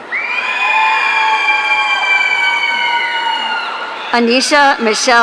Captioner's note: audience cheering